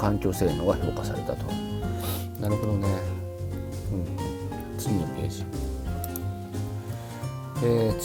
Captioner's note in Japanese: 鼻息